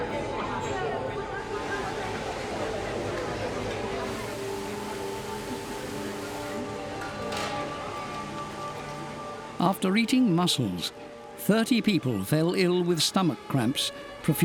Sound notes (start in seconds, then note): 4.0 water spraying